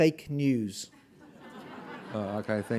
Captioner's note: audience laughing